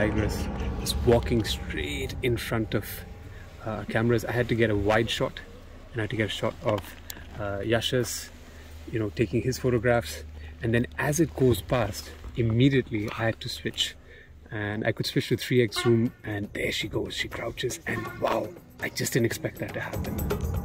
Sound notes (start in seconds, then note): 17.8 sambar call